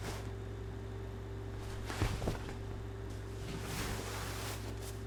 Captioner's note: clothes rustling